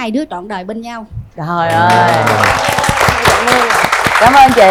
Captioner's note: applause